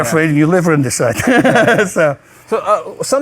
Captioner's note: both laughing